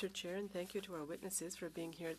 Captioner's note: speaking French